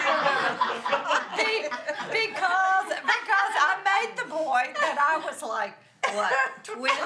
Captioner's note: all laughing